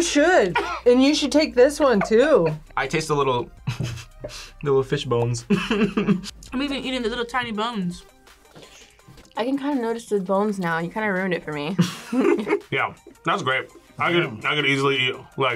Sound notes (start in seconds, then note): 4.4 laughs; 11.8 laughs